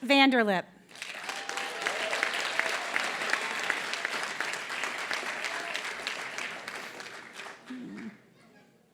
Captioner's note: applause